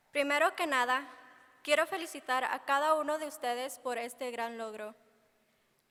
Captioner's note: speaking in foreign language